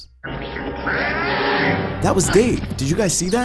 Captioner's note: Yoda yelling